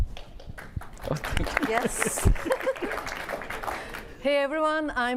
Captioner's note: applause